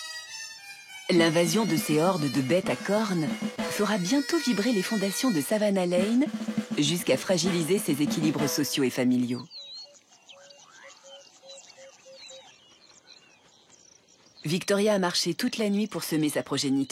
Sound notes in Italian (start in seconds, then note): 5.9 musica trionfale; 9.3 cinguettii